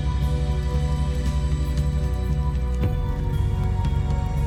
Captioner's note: fire crackling